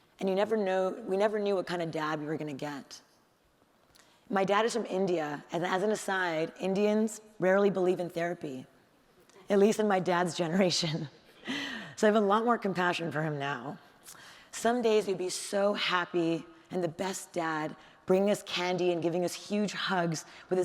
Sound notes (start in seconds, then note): none